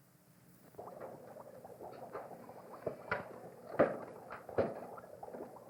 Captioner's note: bubbling sounds